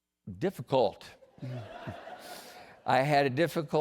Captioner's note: laughter